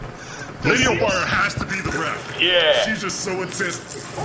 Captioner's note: igniting